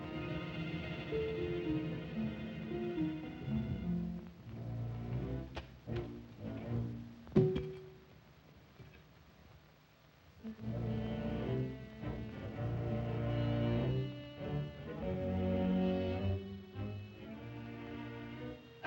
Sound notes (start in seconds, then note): 0.0 ominous music; 7.3 soft thud; 10.4 ominous music